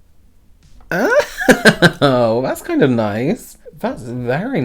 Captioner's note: chuckles